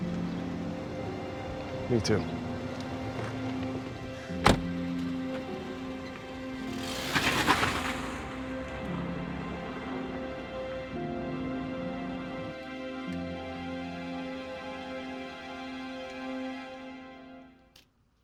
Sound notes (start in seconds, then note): 4.4 door closing; 6.3 engine revving; 9.8 soft dramatic music